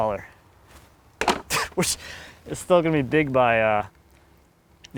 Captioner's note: laughs